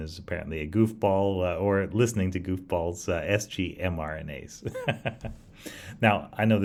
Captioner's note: laughs